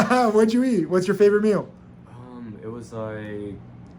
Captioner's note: laughs